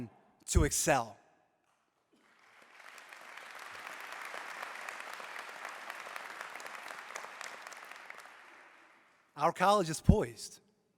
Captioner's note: applause